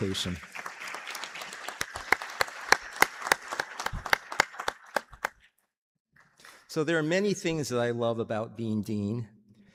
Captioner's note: applause